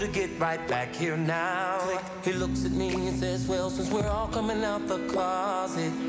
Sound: click

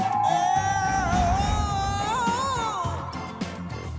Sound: screams

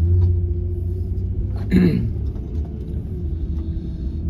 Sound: clears throat

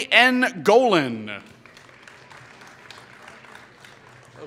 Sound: applause

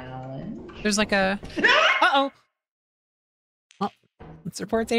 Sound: screams

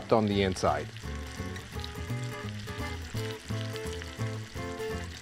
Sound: sizzling

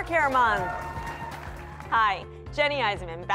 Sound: applause and cheering

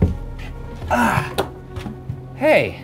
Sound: grunts

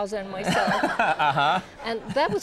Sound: audience laughs

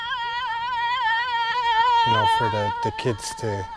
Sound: yelling

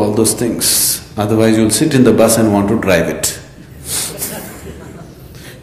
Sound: laughs

